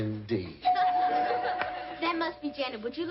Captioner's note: doorbell